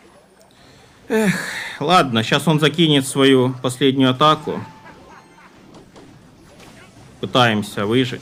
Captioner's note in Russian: вздыхает